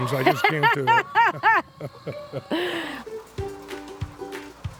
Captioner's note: laughs